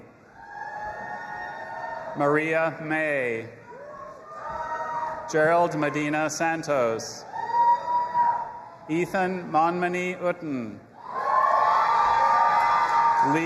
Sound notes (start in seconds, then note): 0.1 audience applauding and cheering; 4.0 audience applauding and cheering; 7.5 audience applauding and cheering; 11.2 audience applauding and cheering